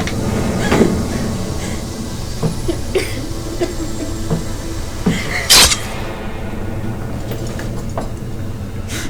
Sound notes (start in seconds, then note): 0.1 gasping; 3.2 coughing; 5.4 blade slicing